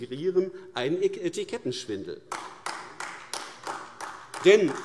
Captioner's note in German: Beifall AfD